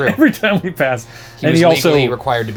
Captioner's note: laughs